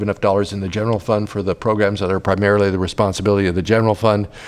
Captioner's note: sigh